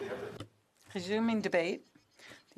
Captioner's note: speaking French